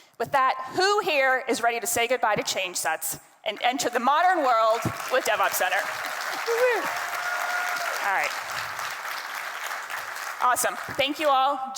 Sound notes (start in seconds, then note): 4.7 attendees cheering; 5.3 attendees clapping